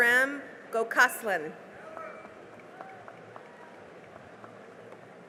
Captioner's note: cheering and applause